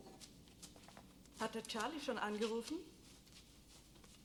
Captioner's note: speaking german